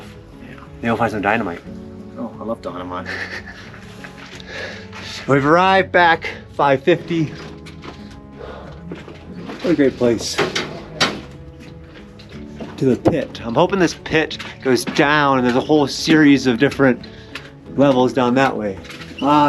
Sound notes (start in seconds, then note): 3.0 laughing